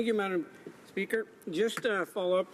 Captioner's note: speaking French